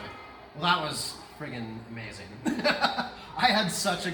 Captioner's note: laughs